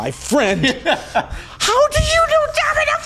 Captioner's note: laughing